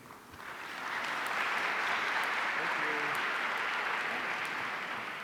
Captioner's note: audience applauding